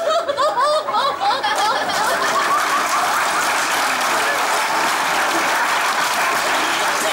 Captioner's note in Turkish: Kahkaha ve alkış sesleri